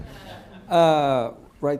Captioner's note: laughter